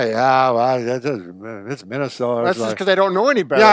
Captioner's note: grumbles